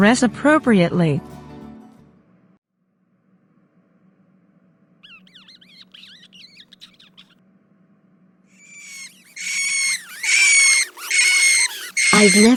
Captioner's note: lots of rats squeaking